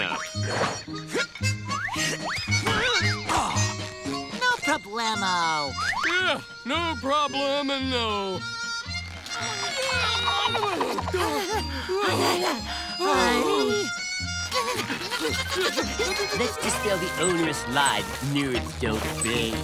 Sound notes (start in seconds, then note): 0.1 grunting; 9.0 grunting; 12.7 groaning; 14.1 grunting